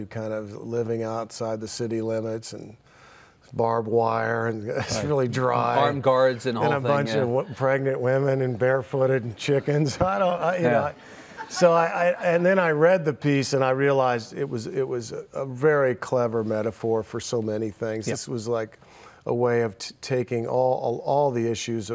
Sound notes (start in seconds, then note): 9.5 laughing